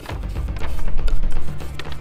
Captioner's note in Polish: odgłos spadających kartek